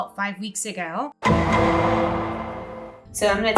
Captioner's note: gavel bangs